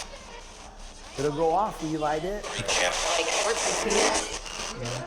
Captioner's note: spirit box voice